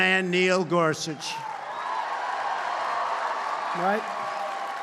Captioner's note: applause